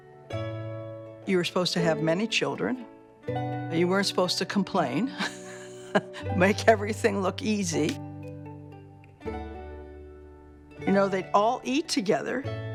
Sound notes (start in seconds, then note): 5.2 chuckles